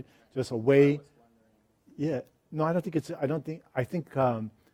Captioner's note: voiceover